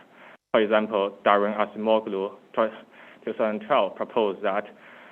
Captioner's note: faintly speaking